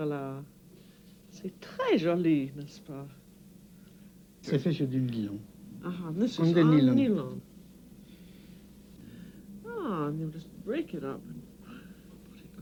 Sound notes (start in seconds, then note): 4.3 speaking french